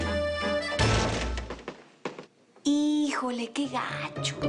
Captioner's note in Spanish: Portazo